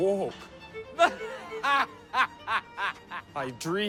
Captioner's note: laughs